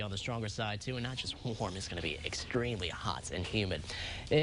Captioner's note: winds